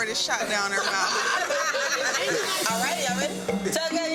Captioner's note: group laughing